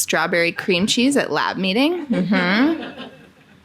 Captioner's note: audience laughing